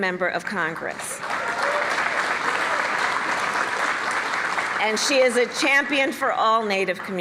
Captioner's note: applause